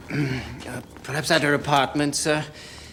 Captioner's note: clears throat